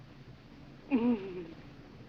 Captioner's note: moan